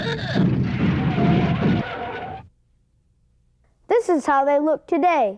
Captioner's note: tires screeching